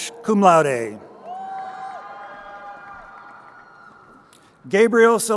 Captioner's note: crowd cheering